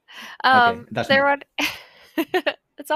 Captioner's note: laughs